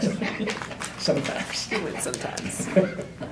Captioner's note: laughs